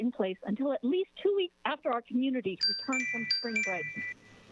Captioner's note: chime